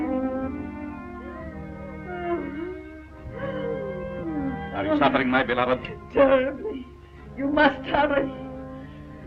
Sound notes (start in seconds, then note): 3.3 crying